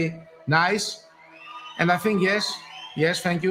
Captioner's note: recorded crowd cheering